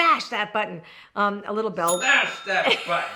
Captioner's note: bell rings